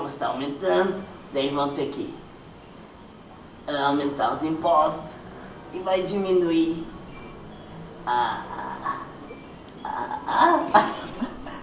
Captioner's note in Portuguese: gemidos